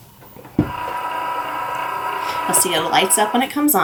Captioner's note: machine buzzing